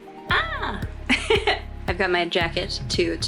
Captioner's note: laughs